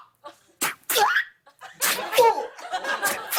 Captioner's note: shrieks